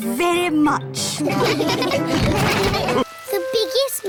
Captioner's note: all laugh